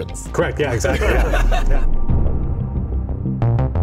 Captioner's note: laughing; electronic rock music